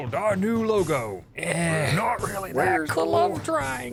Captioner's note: other rebels murmur in disagreement